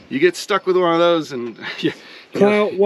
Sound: chuckling

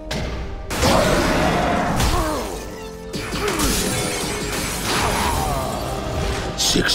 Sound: grunting

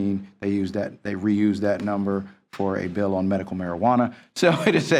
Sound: group laughter

